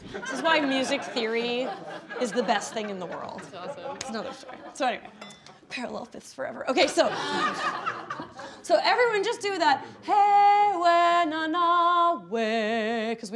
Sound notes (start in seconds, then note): 6.9 laughing; 10.9 singing in foreign language